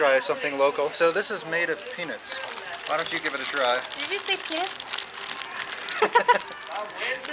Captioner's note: laughter